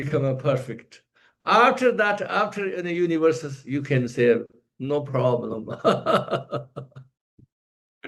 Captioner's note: laughs